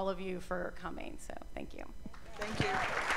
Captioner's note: cheers and applause